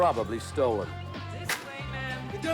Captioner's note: none